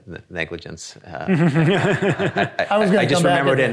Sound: audience laughing

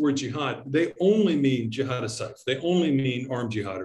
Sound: speaks in Arabic

